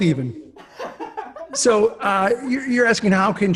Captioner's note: laughs